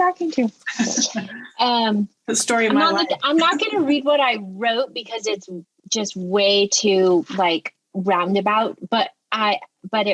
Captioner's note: laughter